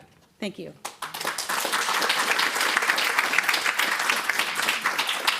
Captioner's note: applause